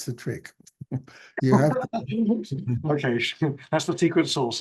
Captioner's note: laughter